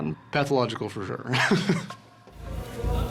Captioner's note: laughing